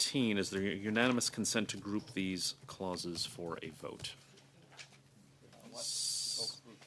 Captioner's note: speaking French